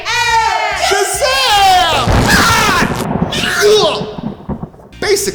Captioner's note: thunder